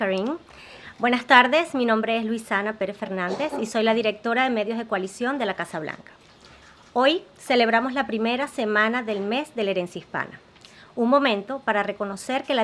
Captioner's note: speaks Spanish